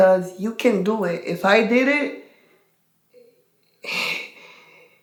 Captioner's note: sighs